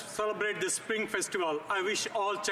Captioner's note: speaking French